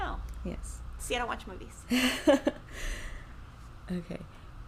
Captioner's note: chuckles